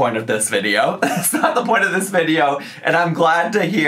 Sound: laughing

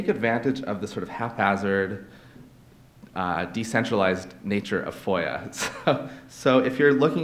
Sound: laughs

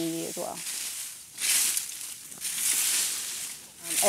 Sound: leaves crunching

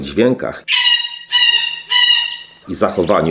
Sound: parrot sounds

